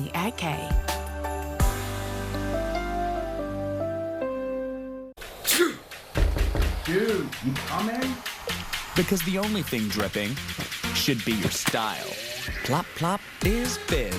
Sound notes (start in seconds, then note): 5.4 coughing/sneezing; 5.9 door knocking